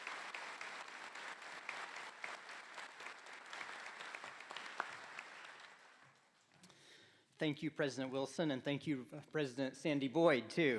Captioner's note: applause